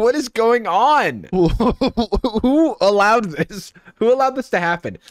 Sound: chuckling

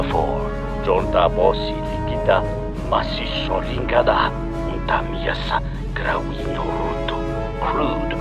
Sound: Speaking in Twi'leki

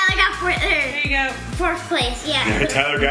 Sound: laughs

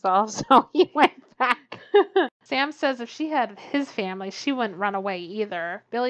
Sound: laughs

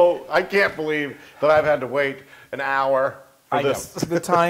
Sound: laugh

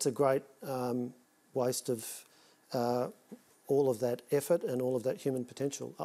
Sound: none

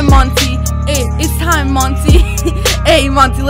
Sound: wheeze

